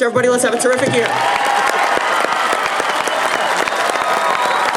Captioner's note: applause